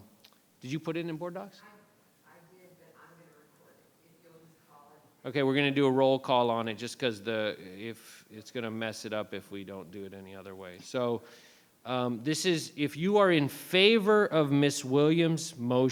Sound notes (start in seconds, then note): 4.3 faintly speaking